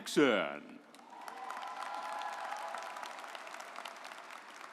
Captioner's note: audience applauds